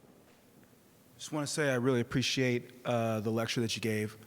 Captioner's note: clear Voiced Man